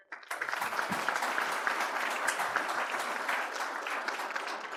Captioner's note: audience applauds